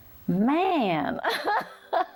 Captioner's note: laughs